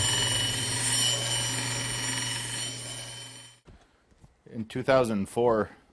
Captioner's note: grinding